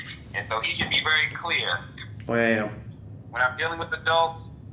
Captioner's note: none